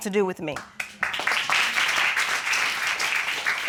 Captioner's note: audience applauding